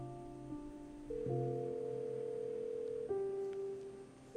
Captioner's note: phone ringing